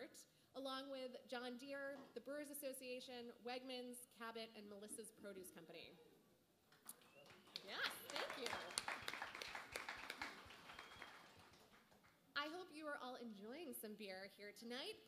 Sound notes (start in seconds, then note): 6.8 applause